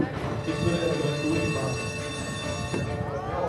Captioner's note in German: Klingeln